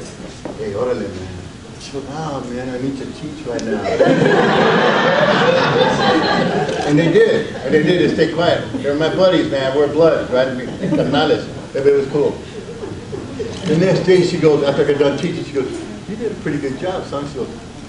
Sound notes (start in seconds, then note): 4.4 audience laughs